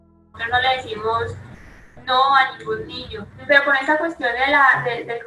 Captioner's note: speaking in foreign language